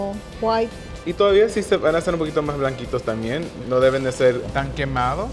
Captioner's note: speaking Spanish